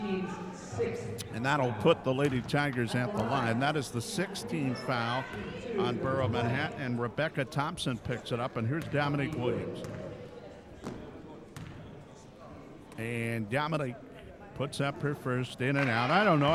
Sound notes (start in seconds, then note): 9.7 dribbling